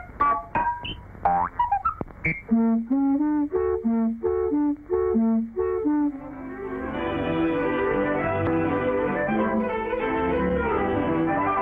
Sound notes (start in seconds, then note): none